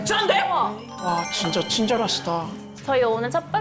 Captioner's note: romantic sound effect